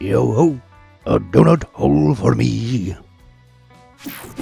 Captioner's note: in a pirate accent